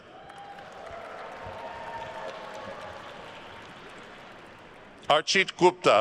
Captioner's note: attendees cheering and applauding